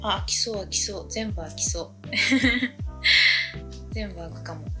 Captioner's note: laughs